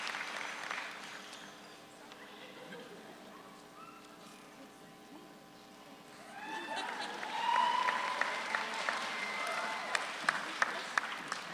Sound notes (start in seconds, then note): 6.7 audience applauds